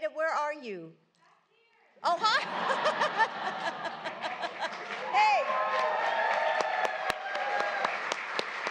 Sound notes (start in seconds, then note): 5.3 laughter and applause; 6.9 applause